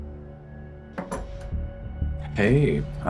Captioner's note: handcuffs clinking